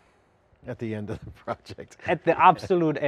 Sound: laughs

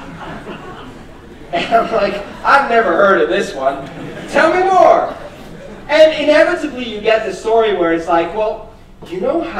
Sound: laughter; laughter

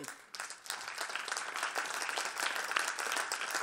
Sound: applause

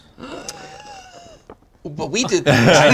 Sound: gasps

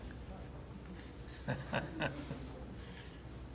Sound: laughs

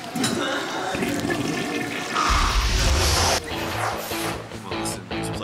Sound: toilet flushing; guitar rock

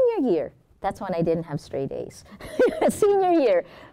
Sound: laughs

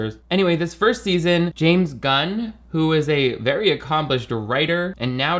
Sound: none

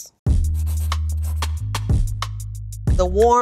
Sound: pencil writing

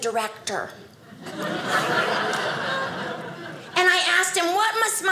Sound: audience laughing

